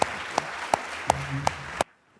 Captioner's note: applause